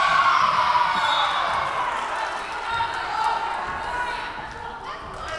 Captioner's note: whistle blowing